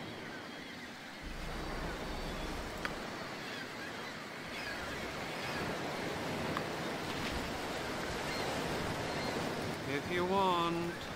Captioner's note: seaside sounds